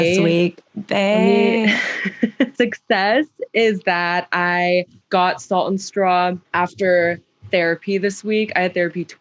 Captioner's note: laughs